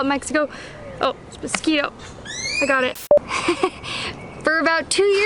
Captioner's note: laughter